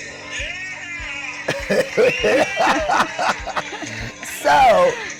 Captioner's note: laughs; audience cheers